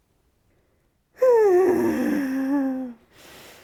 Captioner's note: sigh